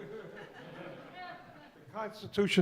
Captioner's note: audience laughs